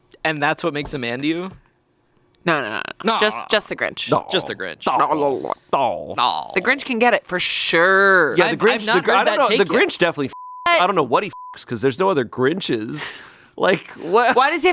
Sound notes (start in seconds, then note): 10.4 beep